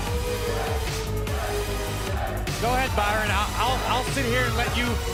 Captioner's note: crowd cheering